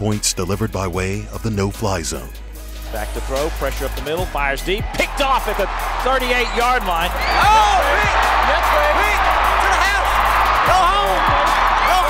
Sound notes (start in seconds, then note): 3.0 voiceover; 7.1 cheering